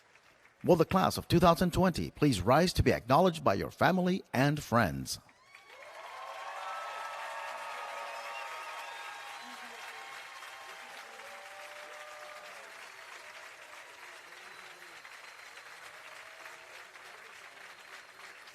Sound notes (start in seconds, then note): 5.2 applause